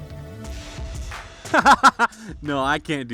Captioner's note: laughs